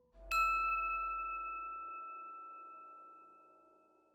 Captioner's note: bright chiming